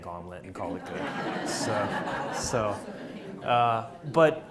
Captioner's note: audience laughs